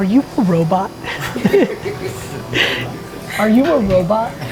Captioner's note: group chuckles